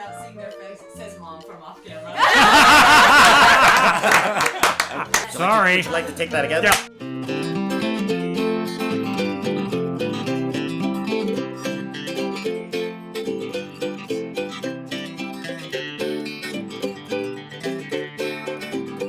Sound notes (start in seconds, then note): 2.1 laughter